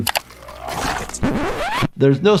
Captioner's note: blood splatters